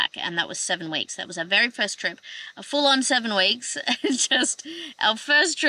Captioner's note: laughing